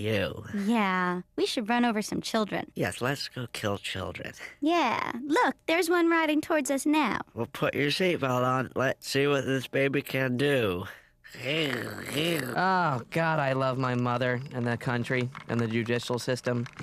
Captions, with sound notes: YOU. WE SHOULD RUN OVER SOME CHILDREN. YES, LET'S GO KILL CHILDREN. YEAH. LOOK, THERE'S ONE RIDING TOWARDS US NOW. WELL, PUT YOUR SEAT BELT ON. LET'S SEE WHAT THIS BABY CAN DO. (faking car revving sounds) OH, GOD, I LOVE MY MOTHER AND THE COUNTRY